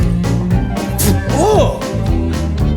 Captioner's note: spits out bread